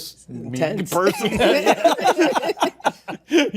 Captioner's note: all laughing